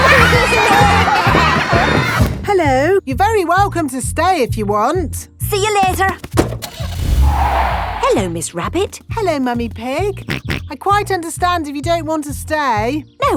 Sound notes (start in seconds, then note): 0.7 laughter; 6.4 car starting; 6.6 tires screeching; 10.5 snorts